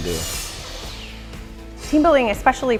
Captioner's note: sound of table saw cutting